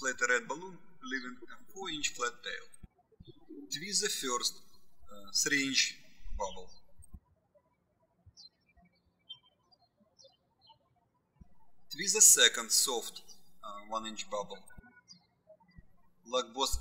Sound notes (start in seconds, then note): 7.1 birds chirping